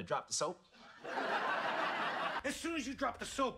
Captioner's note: audience laughs